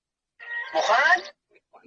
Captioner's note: speaking in a foreign language